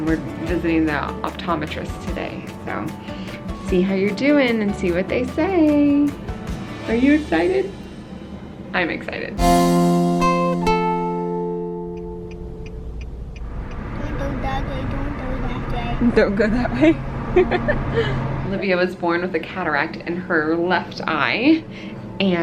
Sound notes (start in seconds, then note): 9.3 soft music; 9.7 blinker clicking; 17.7 laughing